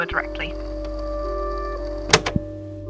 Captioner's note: click